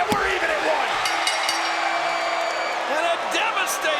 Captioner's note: bell rings